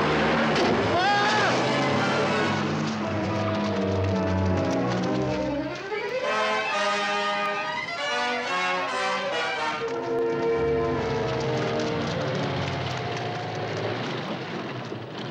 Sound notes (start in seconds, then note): 0.4 thudding; 0.9 Rossiter screaming